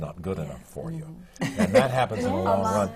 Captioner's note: laughs